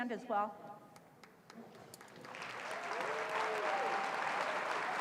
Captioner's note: applause